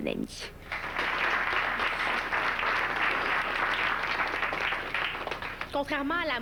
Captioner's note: Applaudissements